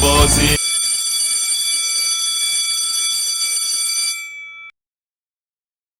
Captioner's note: school bell rings